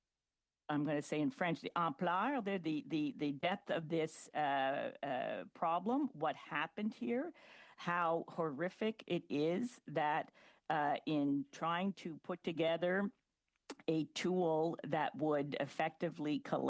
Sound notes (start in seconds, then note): 8.4 speaking French